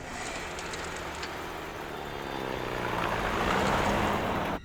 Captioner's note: jeep rumbling